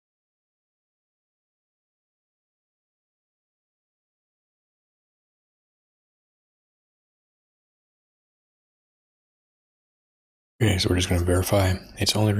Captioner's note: blank Audio